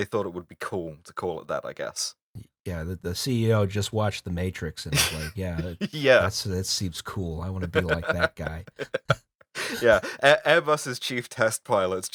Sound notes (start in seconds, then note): 9.5 laughter